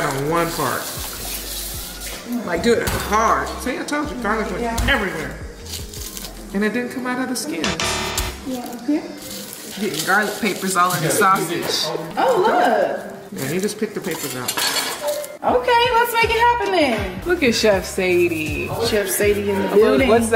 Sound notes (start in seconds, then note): 7.7 buzzing